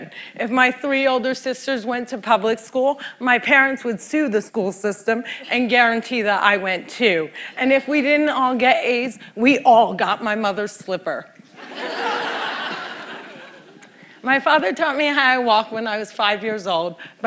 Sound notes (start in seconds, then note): 11.5 laughter